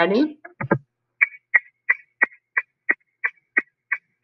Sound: ticking

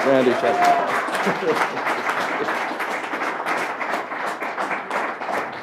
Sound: applause

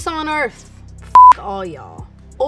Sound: beep

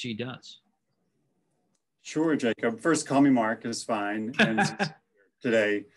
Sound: laugh

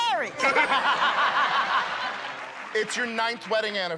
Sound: laughter

